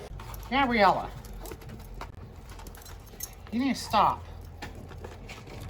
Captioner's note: Ella whimpers